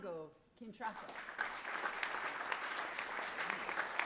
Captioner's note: applause